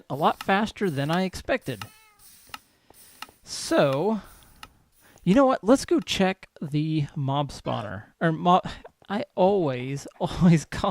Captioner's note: cat meows